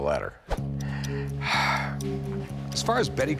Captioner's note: exhales